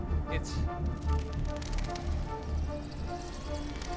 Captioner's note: wings fluttering